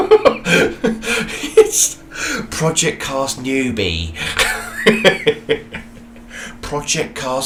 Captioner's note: laughs